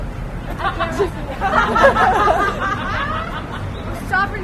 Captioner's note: laughter